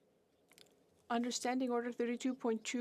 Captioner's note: speaking french